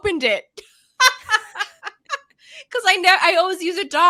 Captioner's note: laughing